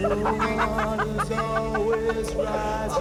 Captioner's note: both laughing